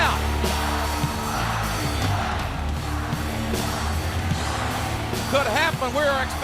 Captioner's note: crowd chanting "Rocky sucks!"